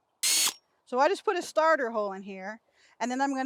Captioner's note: drill whirring